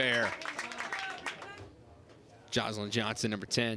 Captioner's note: crowd cheers and applauds